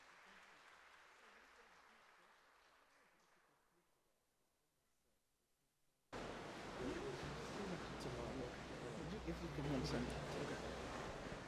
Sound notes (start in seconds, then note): 6.8 crowd chattering